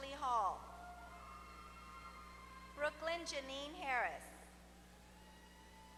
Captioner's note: applause